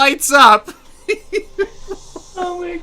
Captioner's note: laughter